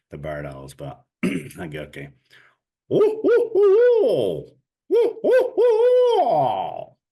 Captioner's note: barred owl calling